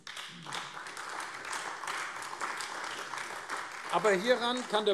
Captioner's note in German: Beifall AfD